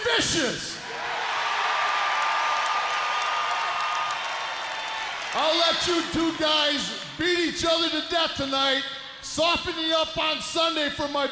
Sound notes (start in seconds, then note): 0.8 crowd cheering